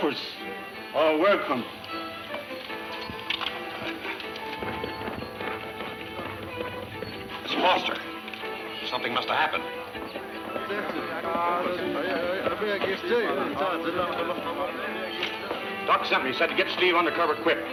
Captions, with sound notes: Rifles are welcome. - It's Foster. Something musta happened. (people murmuring) - Doc sent me, he said to get Steve undercover quick.